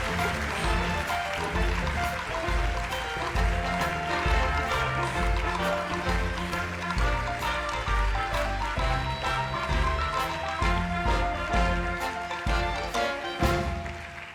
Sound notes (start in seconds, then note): 4.5 cheers and applause